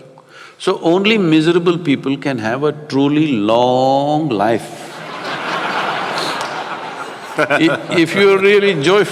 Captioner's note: laughter